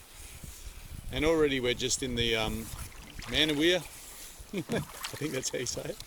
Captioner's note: laughs